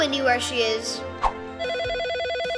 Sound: phone ringing

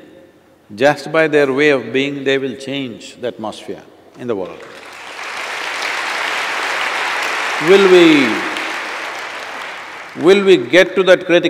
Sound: applause

